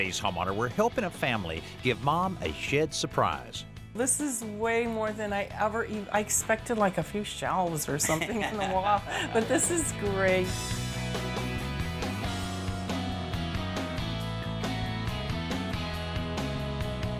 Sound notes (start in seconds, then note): 8.0 chuckles